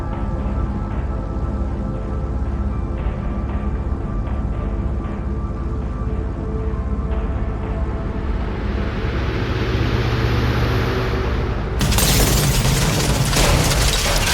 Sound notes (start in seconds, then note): 4.4 airplane engine rumbling; 8.4 dramatic music; 11.8 plane crashing